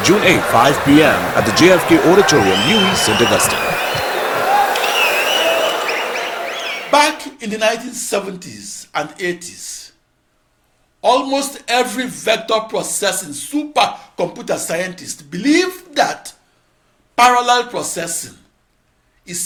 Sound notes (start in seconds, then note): 2.9 wild applause and cheering for 22 seconds